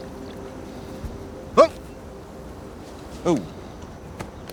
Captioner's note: man huffing